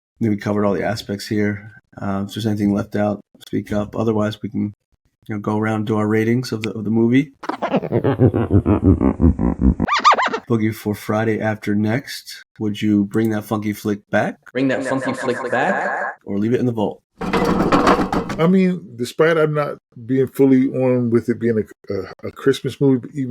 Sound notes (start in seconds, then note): 7.4 record scratching